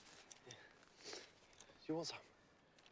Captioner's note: sniffs